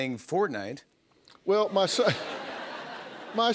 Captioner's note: laughter